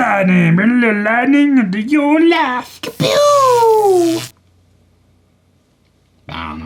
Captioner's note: ka-pewwww; lightning sounds